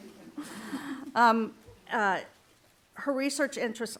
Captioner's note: laughter